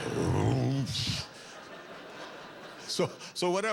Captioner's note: low, rumbling howl